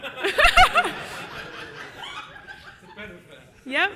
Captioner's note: audience laughs